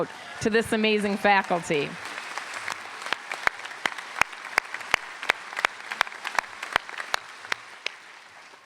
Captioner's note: applause